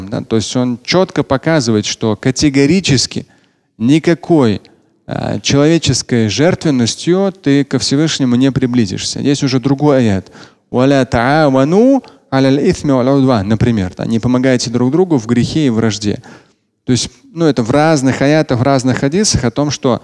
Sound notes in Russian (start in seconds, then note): 11.0 Говорит на арабском